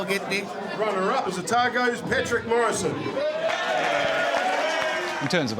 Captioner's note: cheering, applause